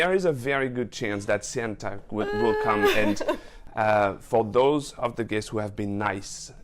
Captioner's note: laughs